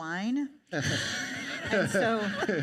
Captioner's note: all laugh